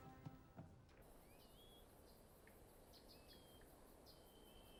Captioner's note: birds chirping